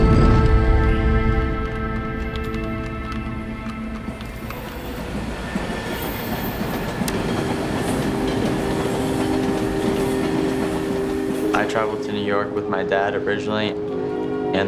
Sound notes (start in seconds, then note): 0.0 keyboard clacking; 5.0 train tracks screeching